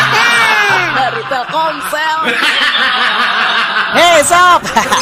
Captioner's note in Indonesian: tertawa